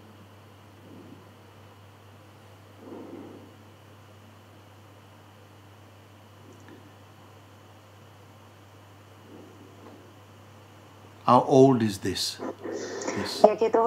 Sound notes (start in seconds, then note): 0.8 silence